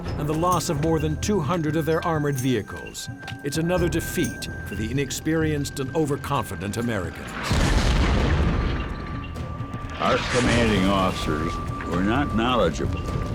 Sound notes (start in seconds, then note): 7.3 shell exploding